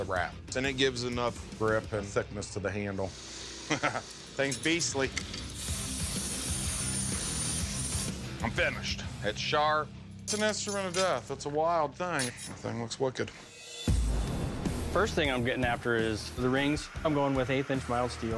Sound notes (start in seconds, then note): 3.6 laughs